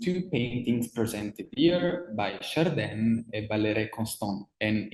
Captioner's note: speaks in foreign language